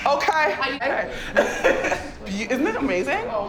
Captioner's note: laughter